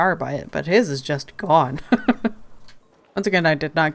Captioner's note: laughs